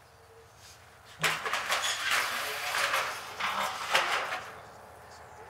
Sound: metal clattering

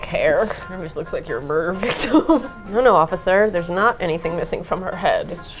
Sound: laughs

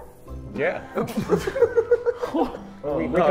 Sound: Sidemen laugh

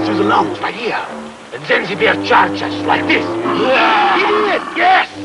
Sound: roars ferociously

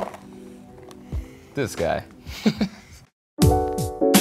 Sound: chuckles

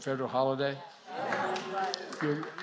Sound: applause

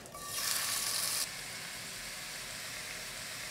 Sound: sizzling

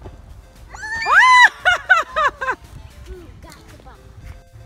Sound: screaming

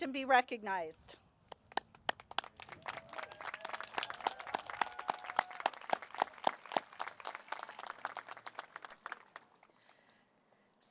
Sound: applause

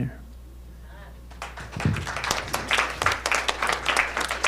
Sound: audience clapping

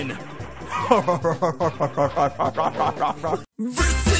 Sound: demonic laughing

